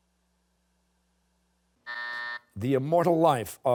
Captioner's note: buzzer